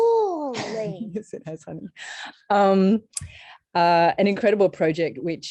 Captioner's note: chuckles